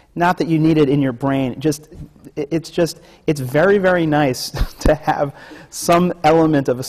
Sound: laughs

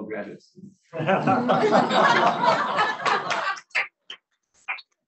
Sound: laughing

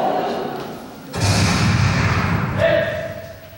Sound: gunshot

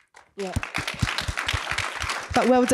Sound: applause

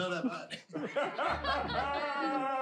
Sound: laughing

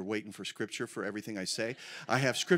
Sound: congregation laughs

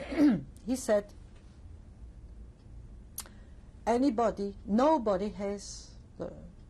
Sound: pauses for 3 seconds

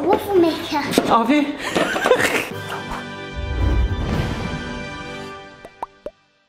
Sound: laughs

